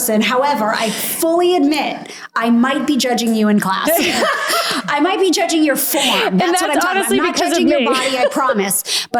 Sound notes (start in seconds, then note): 3.8 laughs